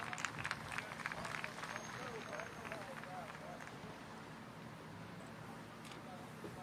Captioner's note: applause